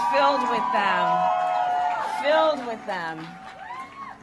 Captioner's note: applause